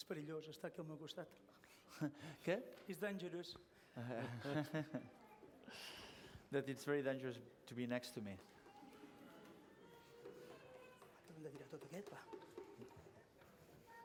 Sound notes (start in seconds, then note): 0.2 non-english speech; 4.0 laughs; 12.3 non-english speech